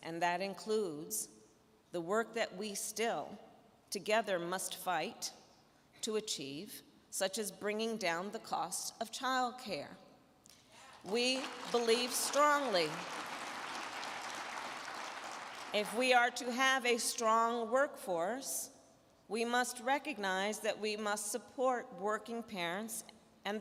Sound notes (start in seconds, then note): 10.8 crowd clapping